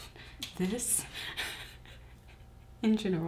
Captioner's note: laughing